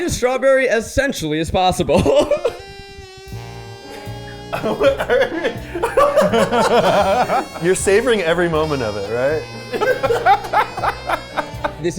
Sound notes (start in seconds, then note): 2.4 sensual instrumental music; 3.8 chuckling; 4.8 laughing; 9.8 sensual instrumental music continues